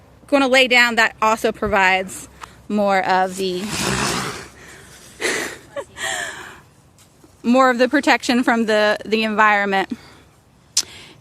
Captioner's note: Bogart grunts